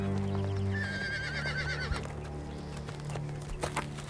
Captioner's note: horses neighing